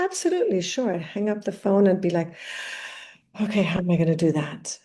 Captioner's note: exhales deeply